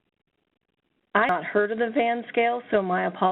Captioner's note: voiceover